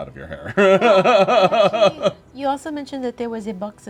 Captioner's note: laughing